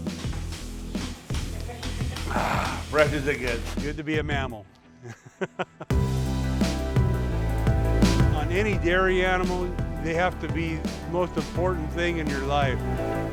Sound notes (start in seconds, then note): 5.0 laughing; 6.1 upbeat music